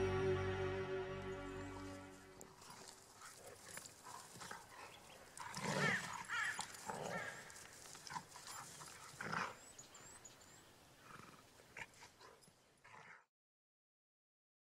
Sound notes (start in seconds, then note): 5.7 crow's screech, chirping of birds, playful growl